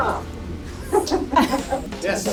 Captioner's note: laughing